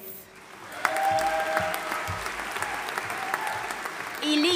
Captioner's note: audience applauding and cheering